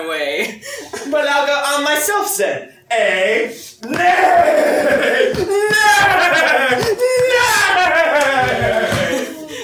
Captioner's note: makes neighing sounds